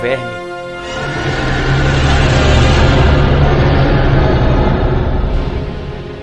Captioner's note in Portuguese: grito de dragão